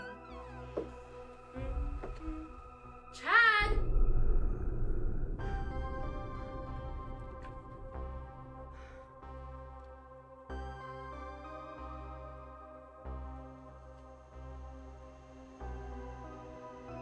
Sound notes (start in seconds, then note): 0.1 door creaking; 1.5 Emma humming; 4.6 tense music; 5.2 solemn music; 13.4 solemn music continues